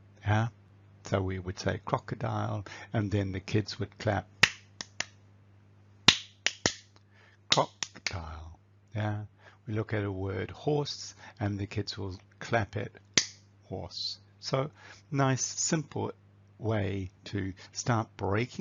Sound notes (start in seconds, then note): 4.8 claps; 12.9 claps